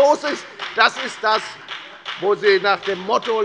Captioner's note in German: Beifall bei der FDP